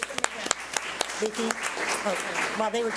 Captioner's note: audience applauding